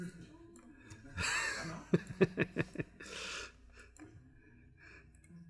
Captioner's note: laughs